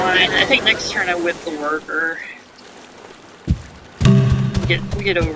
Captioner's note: hammers